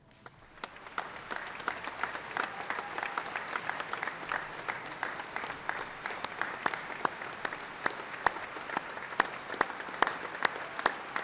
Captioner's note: applause